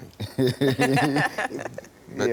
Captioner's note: laugh